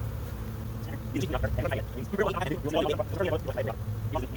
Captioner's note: sped up talking